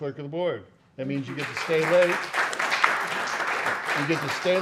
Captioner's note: applause